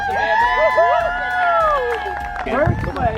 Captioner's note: crowd cheers